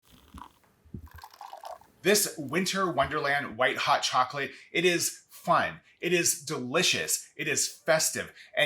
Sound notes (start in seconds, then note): 0.9 liquid sloshing